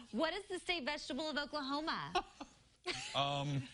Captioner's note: laughter